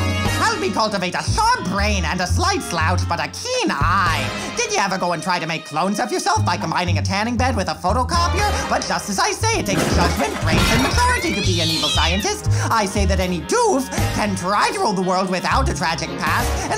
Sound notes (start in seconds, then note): 9.7 crash; 10.7 cat screeching